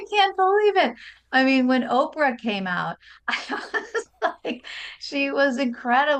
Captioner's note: laughs